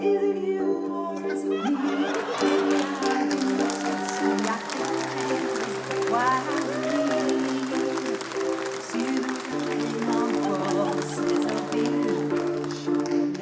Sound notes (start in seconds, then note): 0.4 eerie music; 3.1 laughter, cheering, applause